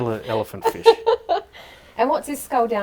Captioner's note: laughing